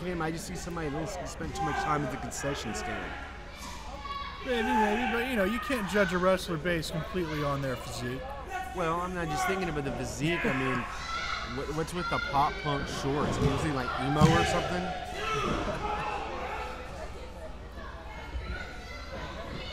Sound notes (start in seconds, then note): 15.4 crowd yelling